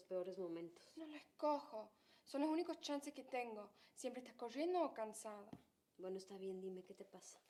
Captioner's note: speaking in foreign language